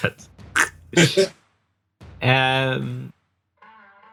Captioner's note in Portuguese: riso